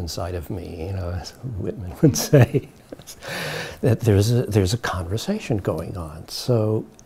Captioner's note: chuckles